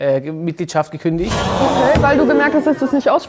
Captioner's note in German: Erschrockener Ton